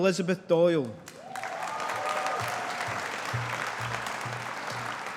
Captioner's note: audience applauding